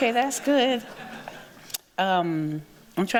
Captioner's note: chuckles